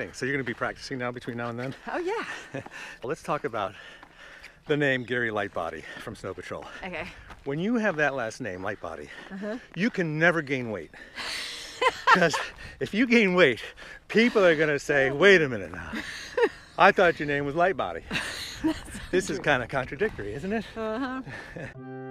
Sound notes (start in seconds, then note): 11.2 Courteney laughs; 21.6 whimsical music